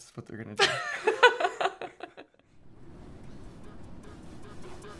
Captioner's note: laughs